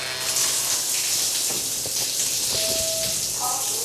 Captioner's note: water running; beep